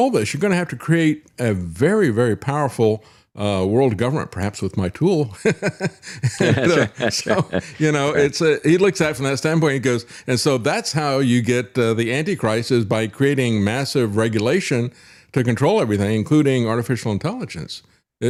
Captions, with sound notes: this, "you're gonna have to create a very, very powerful "world government, perhaps with my tool." (Laughs) You know, he looks at it from that standpoint and goes, and so that's how you get the antichrist is by creating massive regulation to control everything, including artificial intelligence.